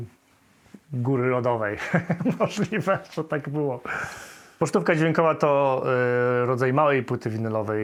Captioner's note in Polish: śmiech